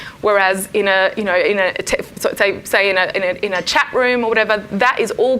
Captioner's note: none